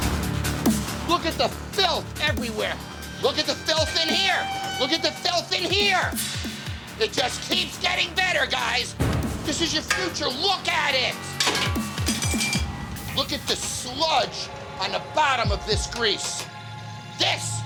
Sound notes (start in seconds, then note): 0.1 intense music; 11.3 spatula clattering